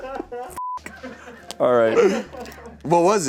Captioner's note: beep